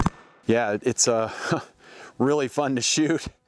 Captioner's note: chuckles